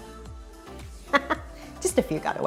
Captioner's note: laughs